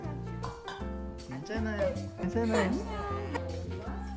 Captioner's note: bawls